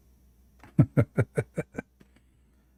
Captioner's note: Ketawa